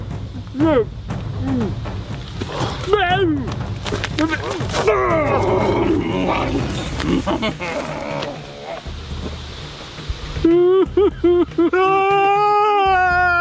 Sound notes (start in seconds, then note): 4.2 Og growling; 10.6 both weeping